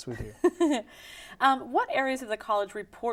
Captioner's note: laughing